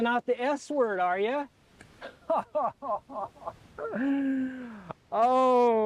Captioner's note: laughs